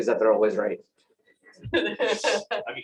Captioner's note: laughter